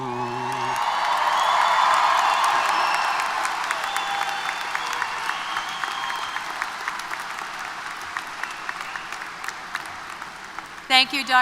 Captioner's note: applause & Cheers